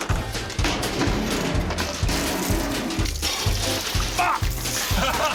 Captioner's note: wheelbarrow clunks, water runs loudly; laughter